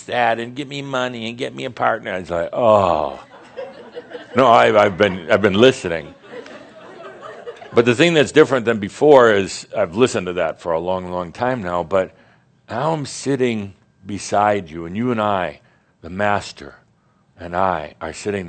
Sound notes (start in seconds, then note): 6.0 more chuckles